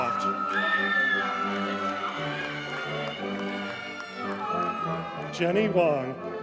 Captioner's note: audience cheers and applauds